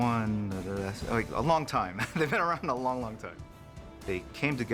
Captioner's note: chuckles